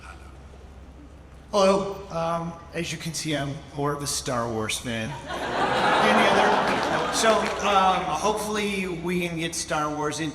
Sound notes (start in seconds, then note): 5.1 audience laughs